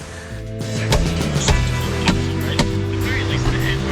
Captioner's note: hammering; radio playing